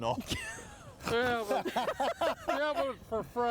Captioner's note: all laughing